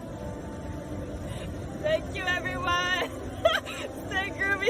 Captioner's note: chuckles